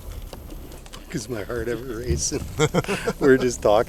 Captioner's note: chuckles